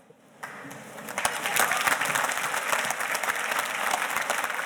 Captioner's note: audience applauding